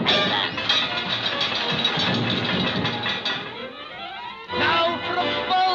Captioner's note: helmets clanking; armor clanging